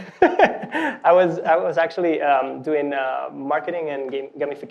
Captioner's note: laughing